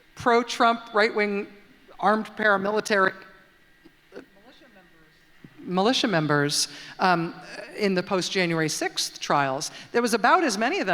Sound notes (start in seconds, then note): none